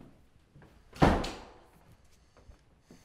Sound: door slams

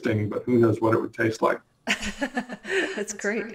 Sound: laughs

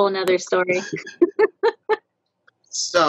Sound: all laughing

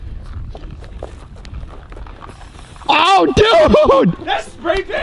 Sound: rattle can spraying

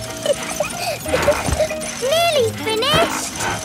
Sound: peppa laughing

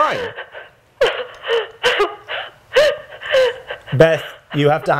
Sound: sobbing

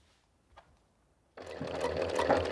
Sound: clattering of the sewing machine

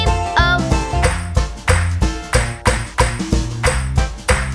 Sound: clap

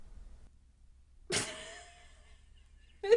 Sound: laughs

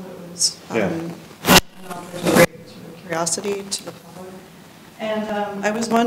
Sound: microphone static hisses

